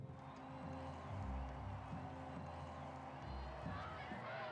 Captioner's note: crowd cheering